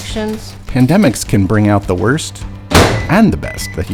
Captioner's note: podcast Voice